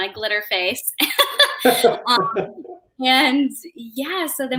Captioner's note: chuckling